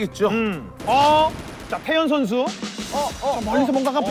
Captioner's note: firing shots